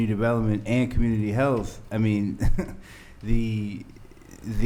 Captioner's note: chuckles